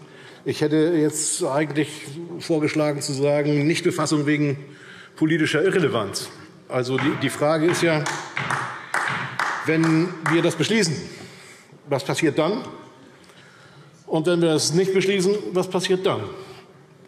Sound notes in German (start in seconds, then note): 6.0 Beifall DIE LINKE